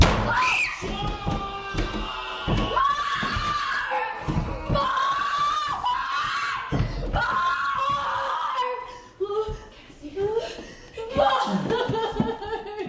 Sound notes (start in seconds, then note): 0.2 screaming; 2.0 banging; 12.7 crying